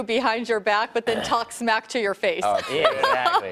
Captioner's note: laughter